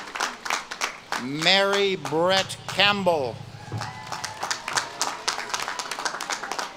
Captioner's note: audience claps and cheers